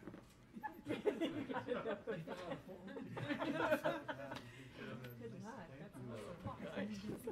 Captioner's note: laugh